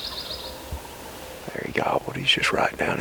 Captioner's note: turkey gobbles